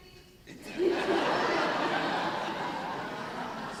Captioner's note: laughing